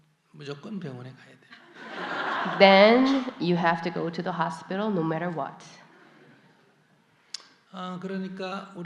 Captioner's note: audience Laughter